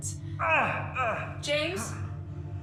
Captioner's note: falling painfully